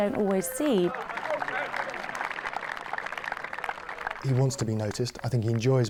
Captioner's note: crowd applauding